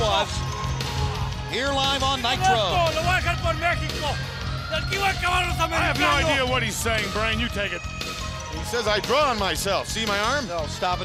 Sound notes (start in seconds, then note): 4.8 crowd chatter